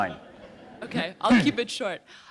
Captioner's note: chuckle